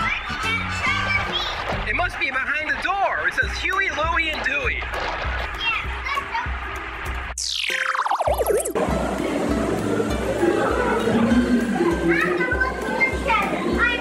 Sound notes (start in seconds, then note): 7.4 futuristic chime